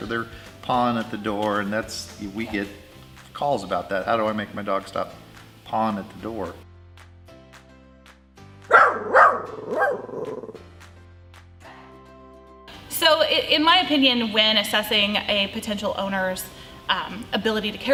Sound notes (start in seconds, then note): 7.1 gentle music; 8.7 dog barking